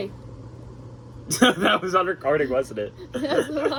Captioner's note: laughs